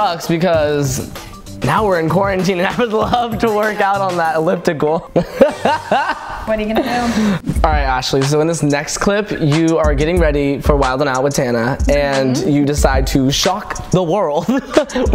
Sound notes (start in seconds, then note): 5.0 laughs; 14.4 chuckles